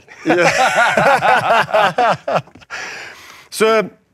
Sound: laughs

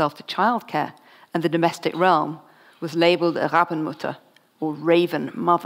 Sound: foreign language

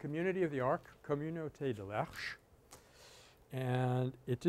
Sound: French

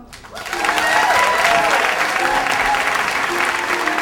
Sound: audience cheers; audience applauds

